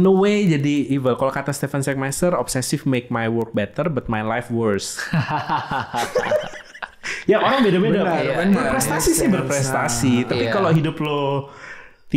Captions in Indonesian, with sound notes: Lama-kelamaan jadi jahat, kalau kata Stefan Sagmeister, "Obsesif membuat pekerjaan saya lebih baik tetapi hidup saya lebih buruk". [tertawa] Tiap orang beda-beda. Berprestasi sih berprestasi, tapi kalau hidup lu